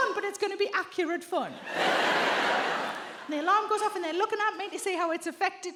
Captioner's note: audience laughs